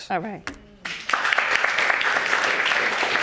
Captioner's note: audience applauding